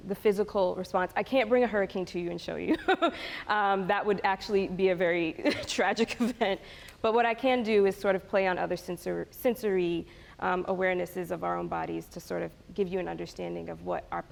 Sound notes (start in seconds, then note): 3.1 laughs